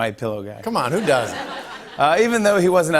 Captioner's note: laughter